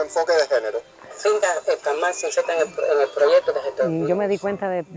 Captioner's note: radio fades